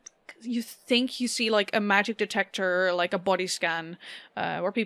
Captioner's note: none